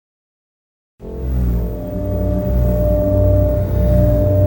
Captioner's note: vibrating noise